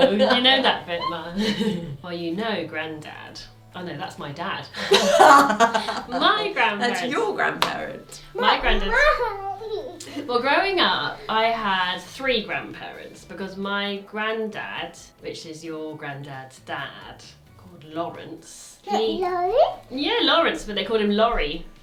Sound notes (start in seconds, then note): 4.7 both laugh